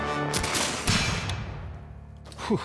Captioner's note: bangs